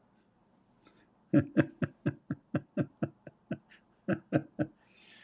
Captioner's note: Ketawa